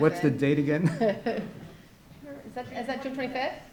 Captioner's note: laughs